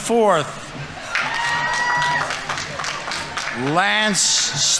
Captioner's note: audience members cheering; audience applauding